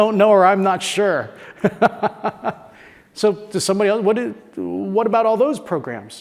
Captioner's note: laugh